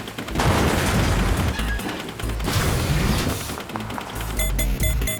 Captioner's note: crash